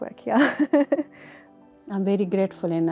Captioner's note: laughs